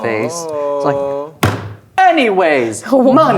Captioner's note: slams table